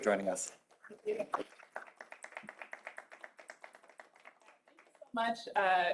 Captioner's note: applause